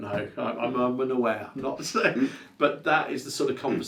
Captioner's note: laughs